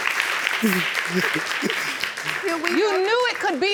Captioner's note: sobbing